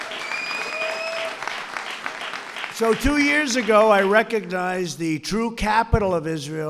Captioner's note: applause